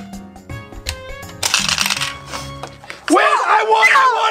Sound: balls clanking

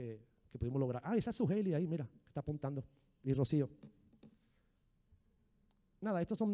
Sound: speaking in foreign language

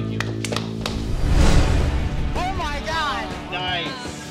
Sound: crowd claps

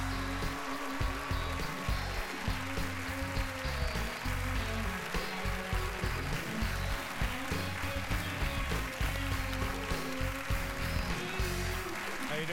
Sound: applause

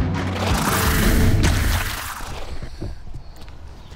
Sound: splash

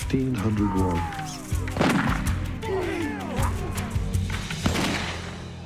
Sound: gunshots, battle sounds

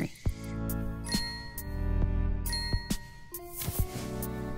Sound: pings

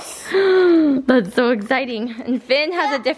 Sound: gasp

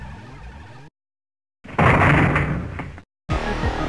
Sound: thud

